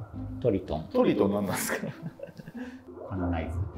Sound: laughing

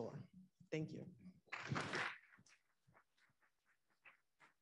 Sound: audience applauding

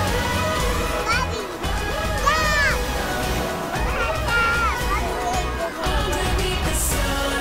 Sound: baby cutely babbling

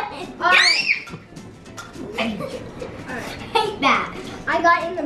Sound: squeals

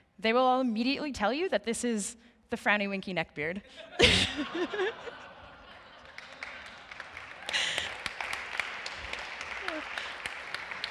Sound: laughing

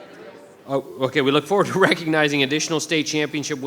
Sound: chuckles

